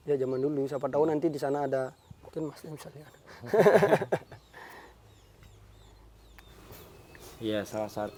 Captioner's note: laughs